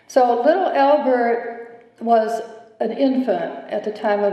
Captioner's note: none